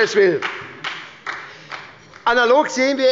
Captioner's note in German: Beifall bei der SPD